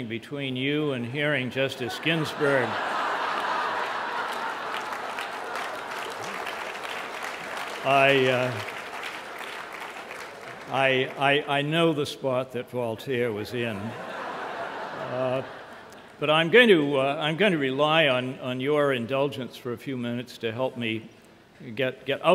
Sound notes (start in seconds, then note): 1.8 laughter; 2.1 applause